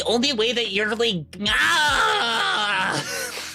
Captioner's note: yells